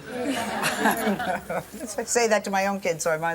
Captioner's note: laughter